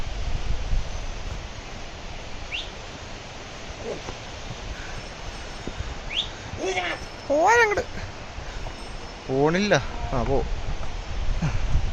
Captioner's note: whistling for the mules